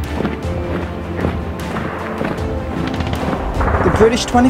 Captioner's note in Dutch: marcherende voetstappen; geweervuur